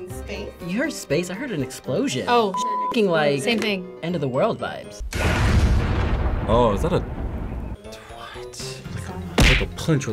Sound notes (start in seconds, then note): 5.0 explosion sounds